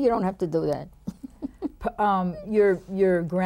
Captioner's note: laughs